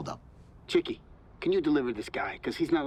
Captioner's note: on phone